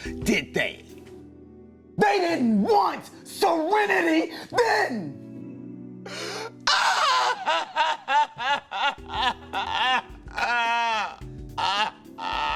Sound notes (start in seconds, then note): 6.1 shouts; 6.6 crying